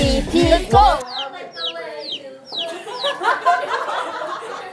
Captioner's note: chirp, chirp